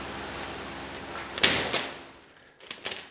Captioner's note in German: Klappern